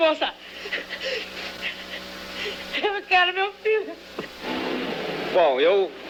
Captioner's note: crying